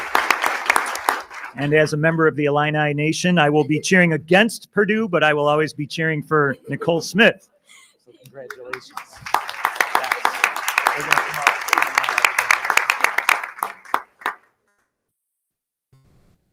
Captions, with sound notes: And as a member of the Illini Nation, I will be cheering against Purdue but I will always be cheering for Nicole Smith. So congratulations. >>Thank you. >>Yes, (speaks faintly).